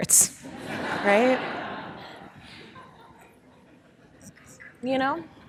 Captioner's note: audience laughing